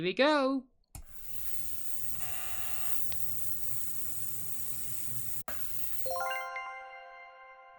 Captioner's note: ultrasonic cleaner sound